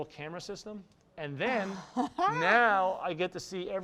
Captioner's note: laughs in amusement